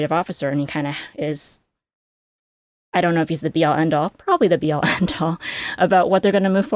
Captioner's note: chuckles